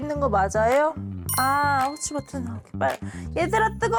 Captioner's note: instruction SFX